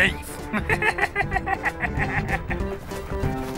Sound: laughing

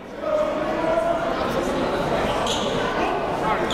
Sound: crowd talking

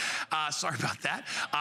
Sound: laughter

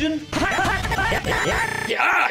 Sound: yells in gibberish

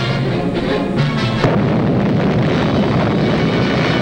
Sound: bomb blasting

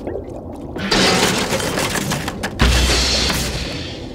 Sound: crashing

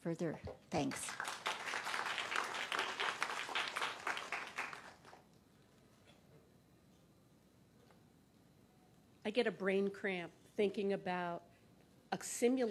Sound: applause

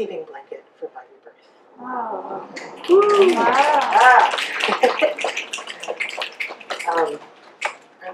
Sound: audience wow, woo and snaps

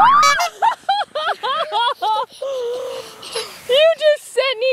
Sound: laughs

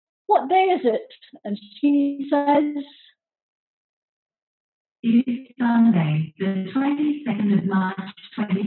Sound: Google voice talking

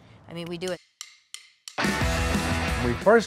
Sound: clicking To Beat

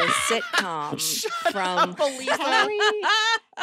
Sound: all laughing

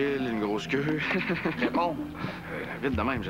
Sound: Rire

